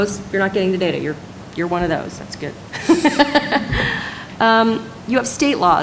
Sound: laughter

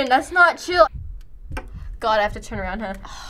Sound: heart thumps

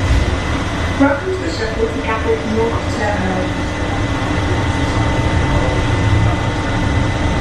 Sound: shuttle rumbling

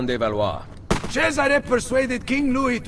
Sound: gunshot

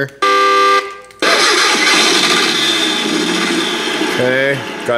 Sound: horn honks; car starts

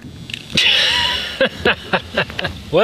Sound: laughing

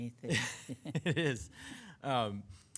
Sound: chuckling

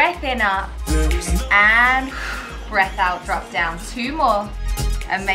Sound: exhales

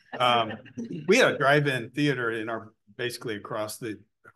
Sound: laughter

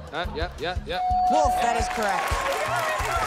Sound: bell dings

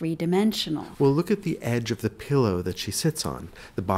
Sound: voiceover

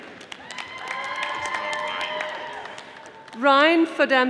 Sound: audience applauding

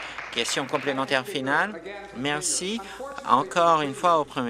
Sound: applause

